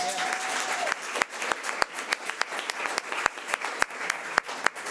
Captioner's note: audience applause